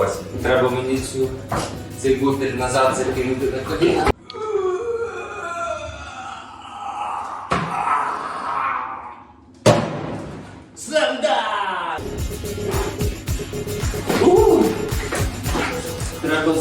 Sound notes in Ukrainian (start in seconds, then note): 3.8 звуки страждань